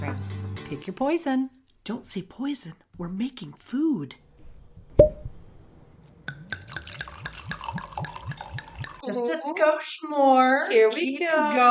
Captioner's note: wine pouring